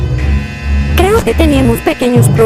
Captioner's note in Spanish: radio